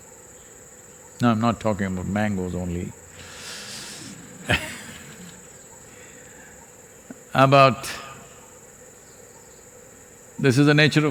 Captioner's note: laughs